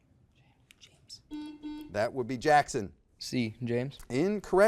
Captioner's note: buzzer beeps